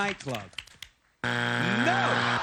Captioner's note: buzzer